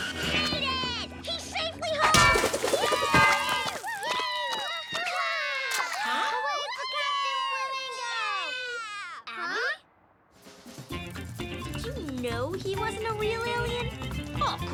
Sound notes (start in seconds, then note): 4.7 kids cheering; 4.7 loud clanging